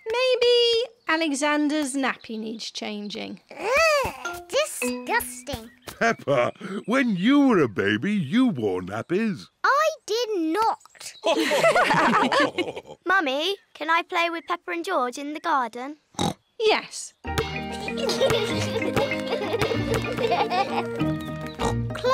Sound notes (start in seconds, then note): 11.2 others laugh; 16.1 oinks; 17.6 youngsters giggle